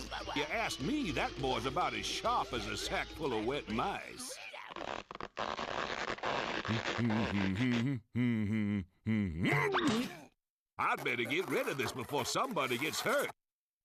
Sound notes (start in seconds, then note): 4.6 rope creaking; 6.7 humming; 9.0 moans